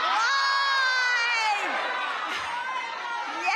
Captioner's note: cheers and applause